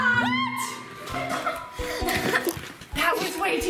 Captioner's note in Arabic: يضحك